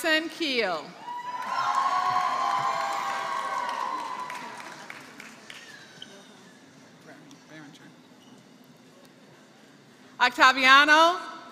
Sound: applause

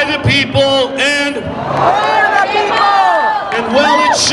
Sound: crowd

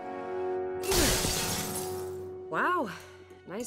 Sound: glass shatters

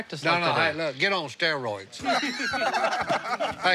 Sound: laughter

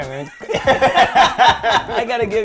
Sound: laughing

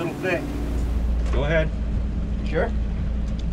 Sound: boat engine idling

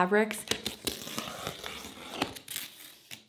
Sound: crackling

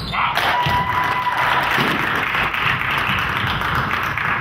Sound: crowd claps

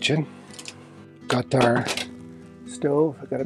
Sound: clangs

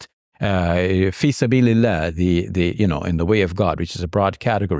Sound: speaking Arabic

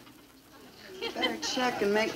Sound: audience laughing

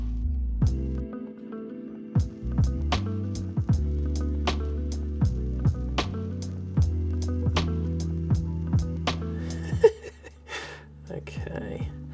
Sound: laughing

